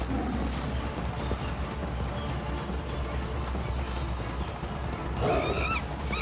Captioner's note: tiger roars; monkey screeches